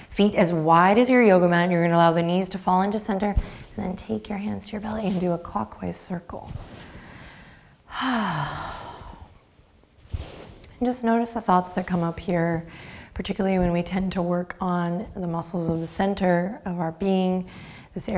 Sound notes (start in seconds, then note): 7.9 sighs